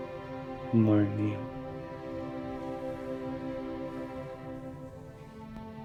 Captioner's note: speaking in Italian; gentle music